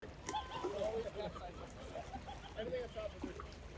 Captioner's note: ocean sounds, yelling